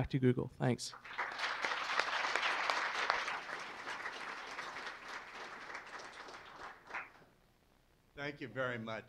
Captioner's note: applause